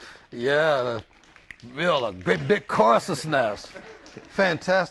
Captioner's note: applause